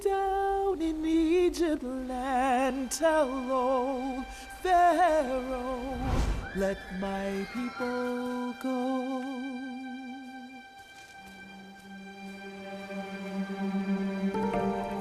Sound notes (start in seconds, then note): 6.0 sound of flash; 11.9 soft inquisitive music